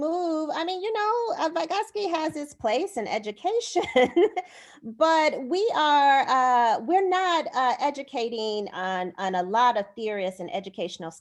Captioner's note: laughter